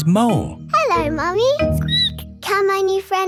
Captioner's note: squeaks